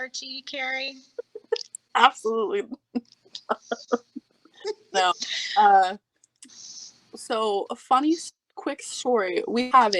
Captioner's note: laughing